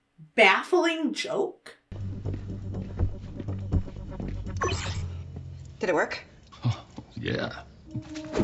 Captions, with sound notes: baffling joke. (tense music) (hologram buzzes) - Did it work? (Tom chuckles) - Yeah.